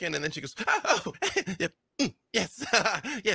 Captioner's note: grunts